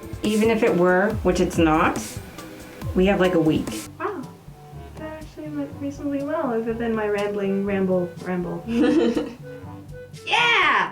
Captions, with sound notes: Even if it were, which it's not... we have, like, a week. [THEME MUSIC ENDS] Wow. That actually went reasonably well, other than my rambling ramble, ramble. (LAUGHTER) YEAH!